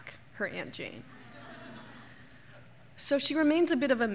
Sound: laughter

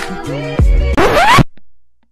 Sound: record scratch

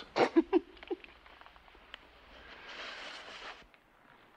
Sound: Betty chuckles

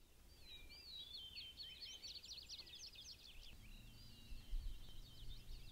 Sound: birds chirping

